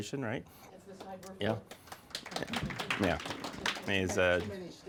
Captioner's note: audience applauding